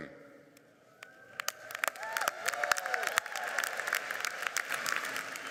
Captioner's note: audience cheers and applauds